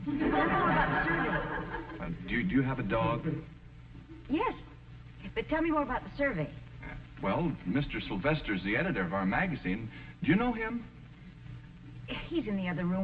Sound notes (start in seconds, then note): 2.8 audience laughing